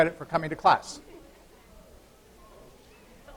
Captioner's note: laughter